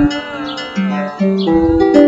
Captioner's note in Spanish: Ooooooo